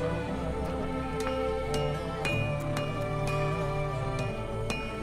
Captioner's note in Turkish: Çekiç sesi